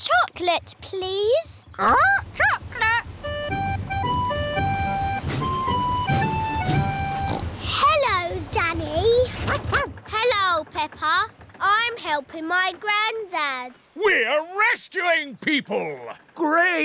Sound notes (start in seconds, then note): 7.0 snorts; 9.4 barks